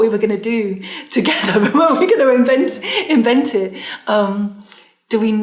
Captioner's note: laughing